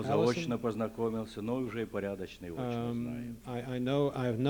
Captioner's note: non-english speech